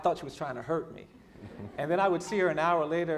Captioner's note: laughing